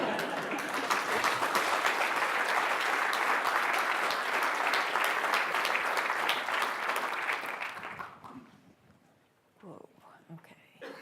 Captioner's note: laughter; applause